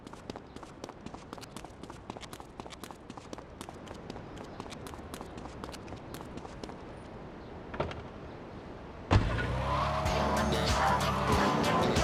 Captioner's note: sirens wailing